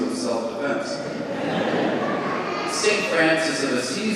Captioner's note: congregation laughing